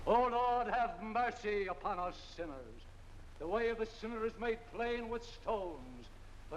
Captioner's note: none